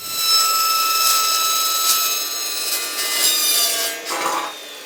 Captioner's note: sawing